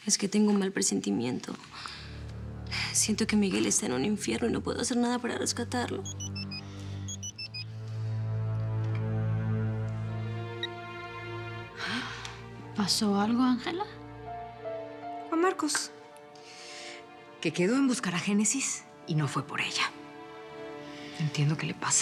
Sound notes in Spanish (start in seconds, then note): 10.0 Suena celular